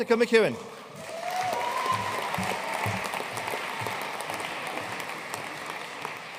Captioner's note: audience cheering and applauding